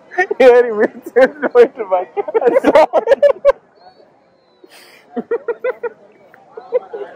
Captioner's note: laughs